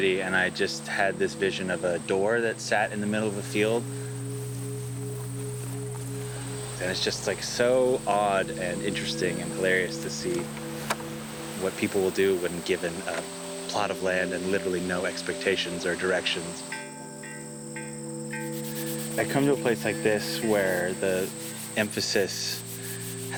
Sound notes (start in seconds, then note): 16.6 chime ringing; 18.4 sanding